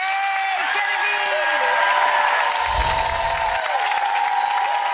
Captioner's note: crowd applauding